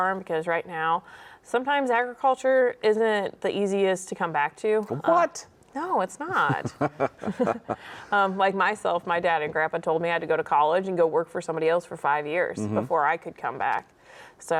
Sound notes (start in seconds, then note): 6.3 both chuckle